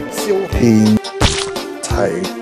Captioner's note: Splash!